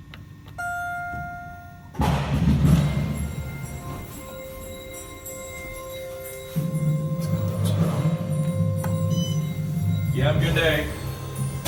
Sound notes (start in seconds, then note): 0.6 elevator Chimes